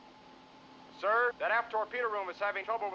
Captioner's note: over intercom